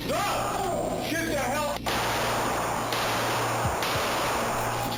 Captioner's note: gunshots